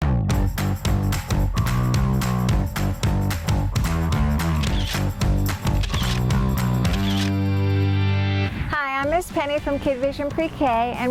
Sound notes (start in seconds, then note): 0.1 upbeat music; 5.6 camera clicking